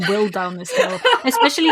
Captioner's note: laughs